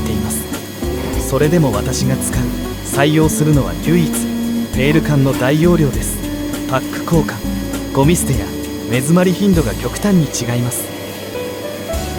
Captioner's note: garbage disposal